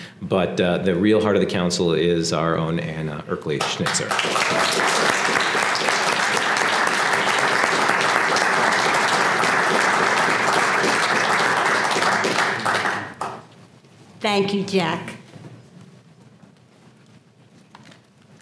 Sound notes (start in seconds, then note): 3.6 applause